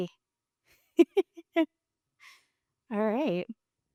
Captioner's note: laughing